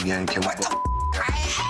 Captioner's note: beep